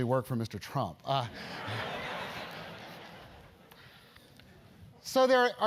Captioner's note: laugh